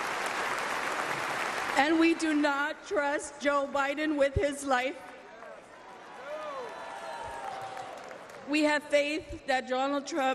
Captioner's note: applause